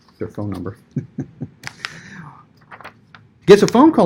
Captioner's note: chuckles